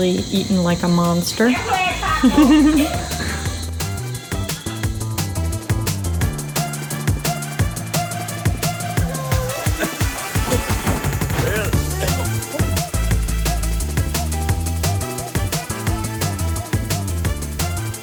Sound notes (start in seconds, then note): 1.7 giggles; 4.4 jazz music; 9.1 guy laughing; 11.8 jazz music